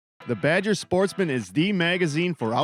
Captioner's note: voiceover